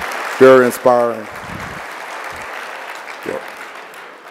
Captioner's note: audience clapping